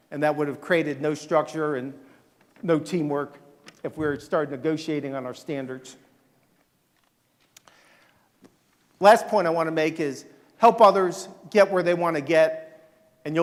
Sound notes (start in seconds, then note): none